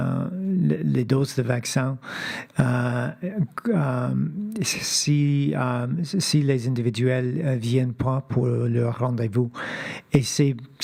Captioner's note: speaking French